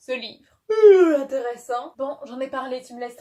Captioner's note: yawns